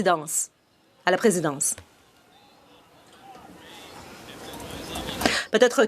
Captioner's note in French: voix de l'interprète